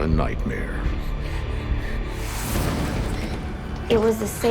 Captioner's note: panting